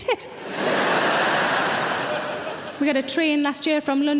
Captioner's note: audience laughing